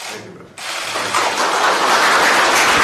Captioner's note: applause